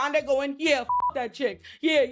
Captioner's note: beep